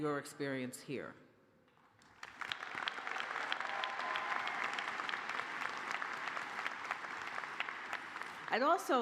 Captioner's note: cheers and applause